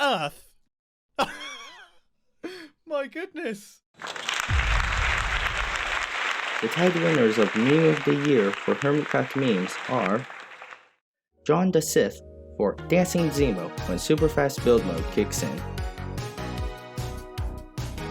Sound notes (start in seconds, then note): 1.3 laugh; 4.0 applause